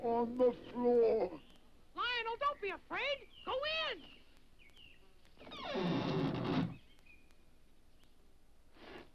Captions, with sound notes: - Lionel, don't be afraid. Go in! (door creaks)